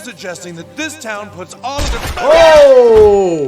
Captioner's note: bullet whooshes